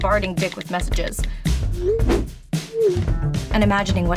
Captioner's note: message sending sound